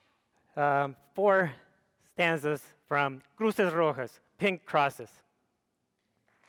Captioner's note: speaks foreign language